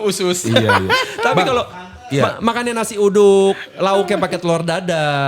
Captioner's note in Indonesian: tertawa